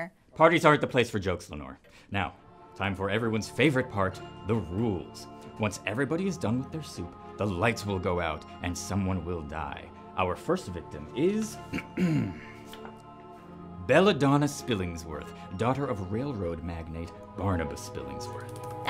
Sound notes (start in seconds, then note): 11.7 clears throat